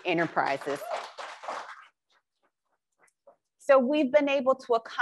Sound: crowd applauds

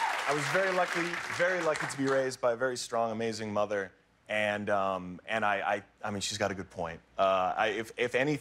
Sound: applause

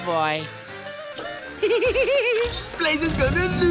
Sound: giggling

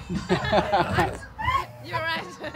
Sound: laughs

